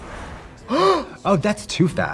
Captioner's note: Trixie gasps